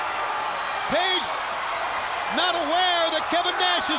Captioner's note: crowd cheering